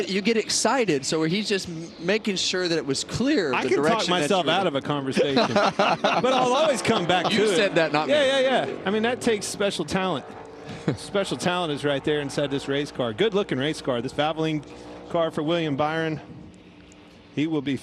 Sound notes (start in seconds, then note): 10.6 laughter